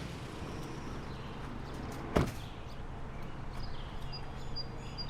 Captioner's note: birds chattering